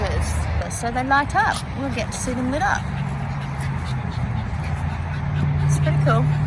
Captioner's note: dog pants in background